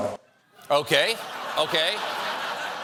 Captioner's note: laughter